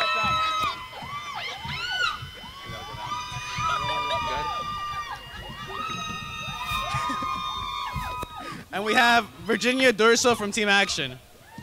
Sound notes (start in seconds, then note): 2.3 crowd cheering; 6.6 chuckles